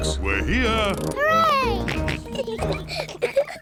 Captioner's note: kids giggling; george oinks